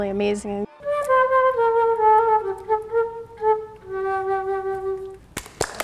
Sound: playing flute; applause

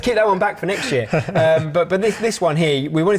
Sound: chuckles

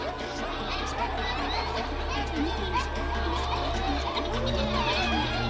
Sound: Brigit muttering prayers

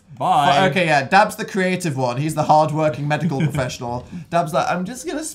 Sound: laughs

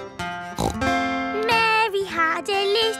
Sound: playing guitar; snorts

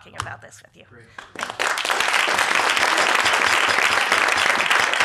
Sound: applause

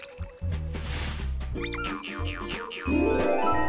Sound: squeak

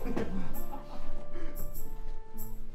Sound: farmers laugh

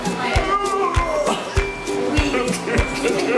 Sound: groaning

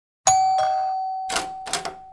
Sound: doorbell; door Opens

